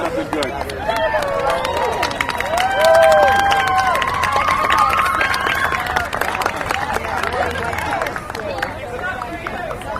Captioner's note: audience applause and whistling